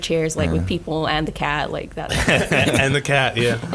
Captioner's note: laughing